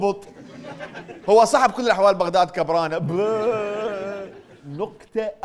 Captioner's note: fake laughing at own joke